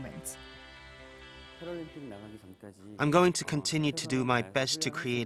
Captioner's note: Korean